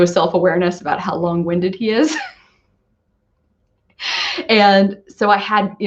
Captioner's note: laughs